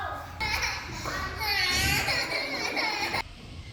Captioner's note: cries